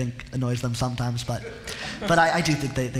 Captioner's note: laughter